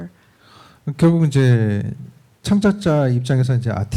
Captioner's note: speaking korean